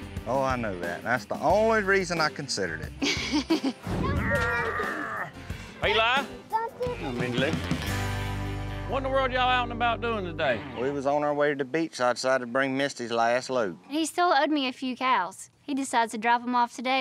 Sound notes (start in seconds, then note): 3.0 chuckles